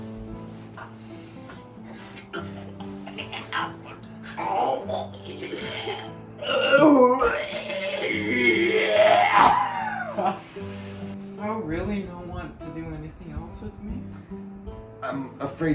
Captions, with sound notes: (kissing noises) Does thou really not want to do anything else with me?